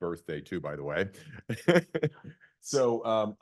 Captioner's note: laughs